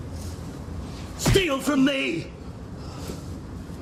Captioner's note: thud